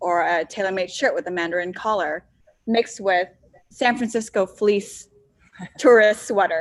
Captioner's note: laughs